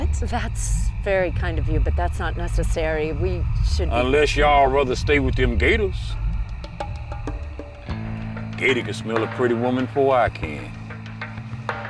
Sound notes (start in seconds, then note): none